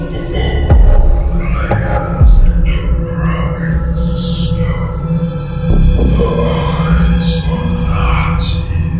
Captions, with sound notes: [Scary Voice louder] ...broken stone. The eyes are not here.